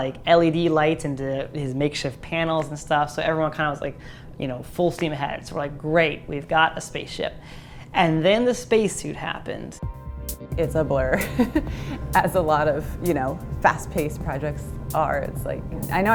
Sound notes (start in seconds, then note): 11.2 laughs